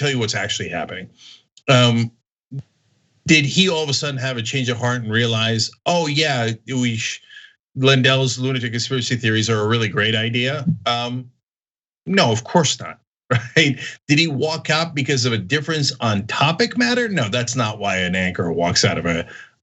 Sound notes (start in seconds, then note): 13.3 laugh